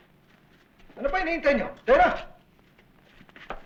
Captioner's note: non-english speech